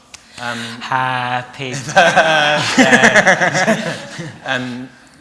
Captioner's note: laughter